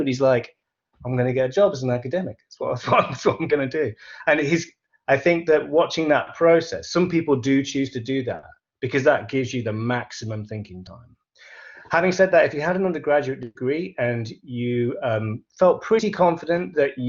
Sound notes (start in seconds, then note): 2.7 laughs